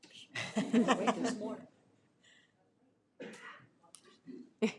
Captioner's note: audience laughing